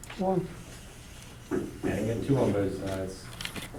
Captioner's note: voiceover